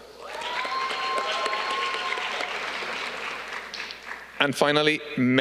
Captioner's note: audience cheering